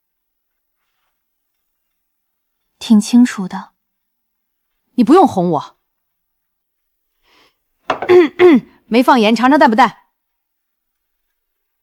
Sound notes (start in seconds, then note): 8.0 cough, cough